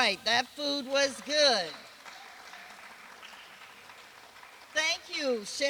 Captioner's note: applause